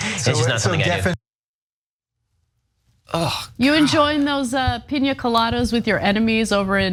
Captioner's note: laugh